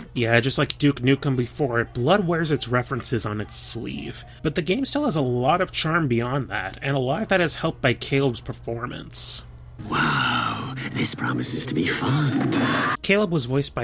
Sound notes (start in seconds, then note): 12.1 scream